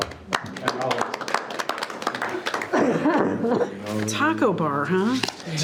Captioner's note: participants applauding